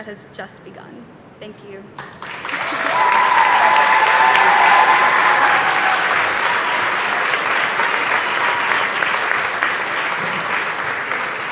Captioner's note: cheers and applause